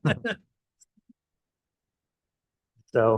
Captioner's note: chuckling